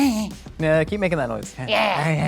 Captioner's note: grunting